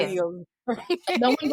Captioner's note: laughter